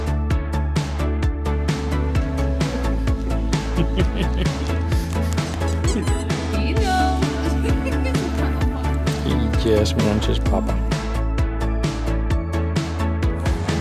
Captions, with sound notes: [Laughter] [Squeaky toy] Dino. [Laughter] He just wants his Papa.